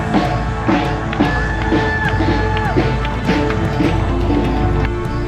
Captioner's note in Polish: Aplauz